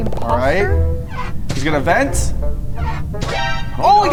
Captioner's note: hinge creaks; dramatic anticipatory chord; hinge creaks